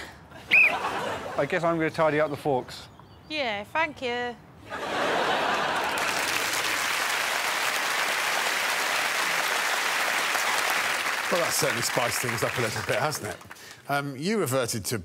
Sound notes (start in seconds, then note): 0.4 whistle blows; 5.5 applause